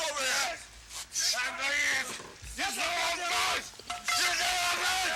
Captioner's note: people yelling